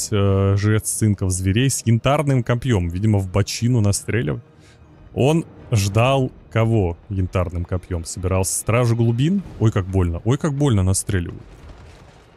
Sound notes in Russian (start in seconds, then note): none